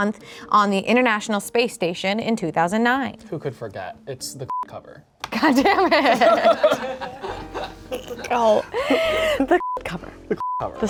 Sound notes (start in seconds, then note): 4.7 beep; 5.3 everyone laughs; 9.6 beep